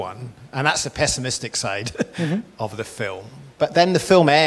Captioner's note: laughs